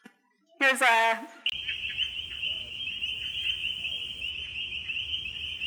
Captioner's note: frogs croaking